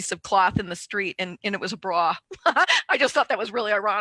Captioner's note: laughs